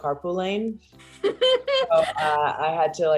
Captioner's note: laughs